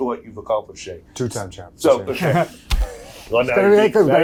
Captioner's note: laughs